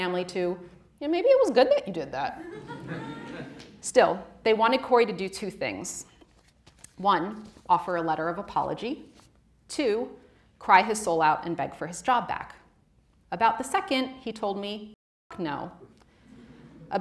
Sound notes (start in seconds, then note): 2.4 audience laughing